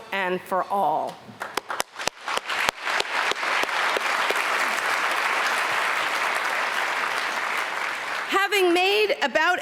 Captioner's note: applause